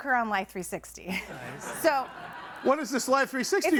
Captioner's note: audience laughs